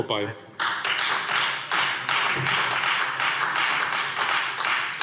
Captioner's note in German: Beifall Freie Demokraten